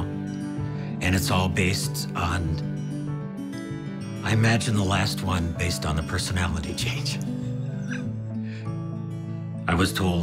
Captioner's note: laughs